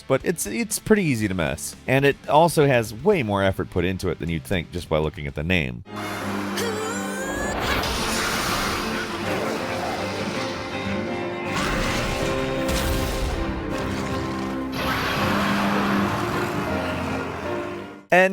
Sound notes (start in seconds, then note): 6.5 Jeanne groans; 7.4 magic whirs; 14.8 creature roars